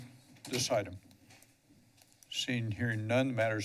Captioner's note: pause